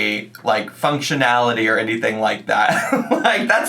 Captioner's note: laughs